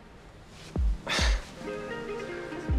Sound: Jake sighing

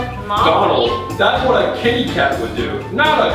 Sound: voiceover

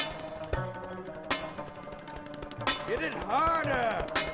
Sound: sitar music; hammer hitting metal

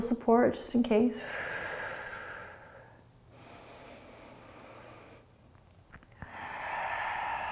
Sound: exhaling and inhaling

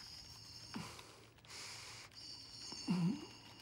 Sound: raspy moan

